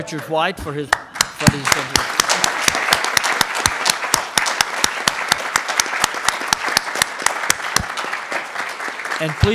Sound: applause

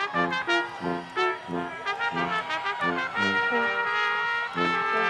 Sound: people cheering

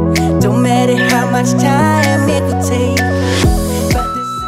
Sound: alarm beeping

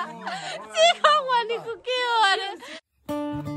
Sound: mocking

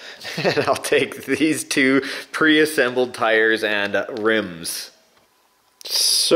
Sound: laughs

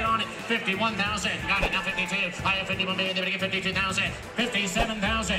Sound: auctioneer chant

